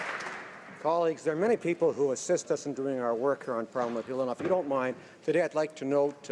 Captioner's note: applause